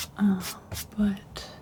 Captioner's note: scratching